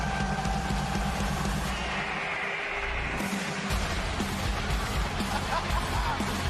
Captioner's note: laughter